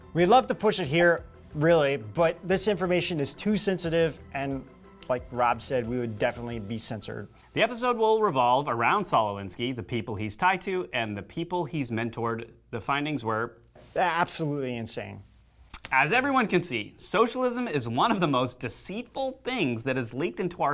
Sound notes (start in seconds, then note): none